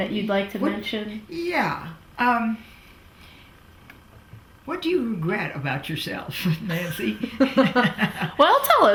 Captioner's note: laughs